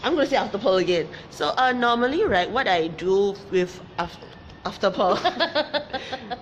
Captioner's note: laughs